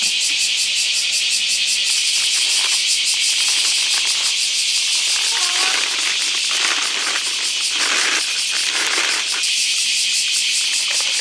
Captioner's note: this loud noise is the sound of cicadas